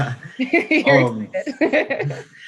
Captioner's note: laughter